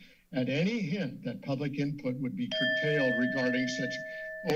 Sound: alarm sound

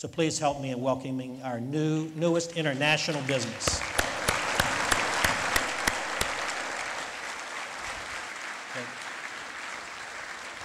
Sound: lead Applause

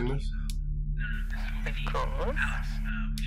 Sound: over walkie

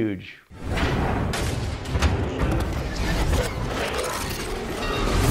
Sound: loud sci-fi techno effects

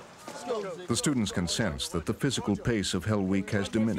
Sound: voiceover

